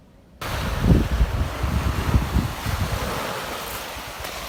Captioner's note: waves crashing